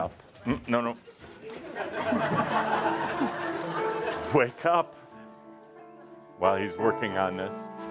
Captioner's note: laughter